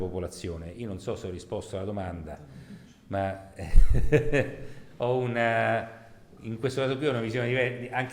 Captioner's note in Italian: risata